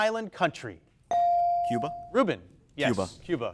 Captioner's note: bell dings